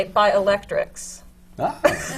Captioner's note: laughter